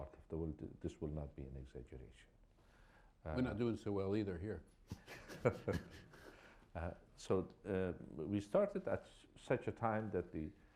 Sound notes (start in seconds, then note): 4.9 laughter